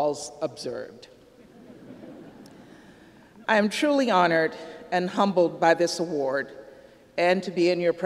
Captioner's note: laughter